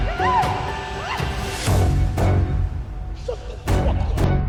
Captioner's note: woman screams